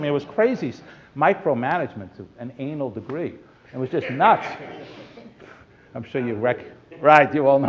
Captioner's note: laughter